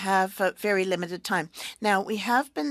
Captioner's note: speaking French